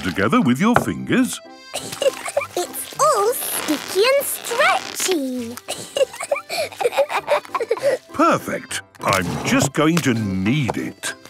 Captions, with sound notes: together with your fingers? - It's all sticky and stretchy! - (both laughing) - Perfect! I'm just going to knead it.